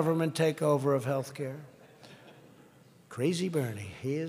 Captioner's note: laughter